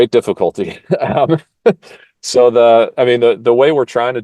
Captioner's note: laugh